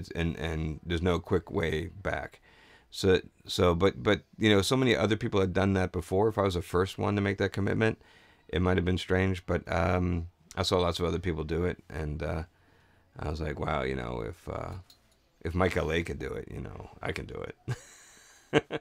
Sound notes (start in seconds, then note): 17.7 laughs